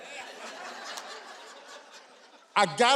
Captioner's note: audience laughing